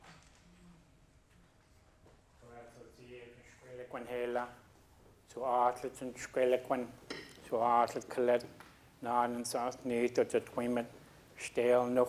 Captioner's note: speaking a local Indigenous language